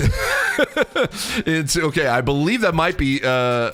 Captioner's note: laugh